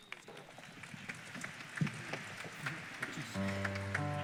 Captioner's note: applause; piano playing chord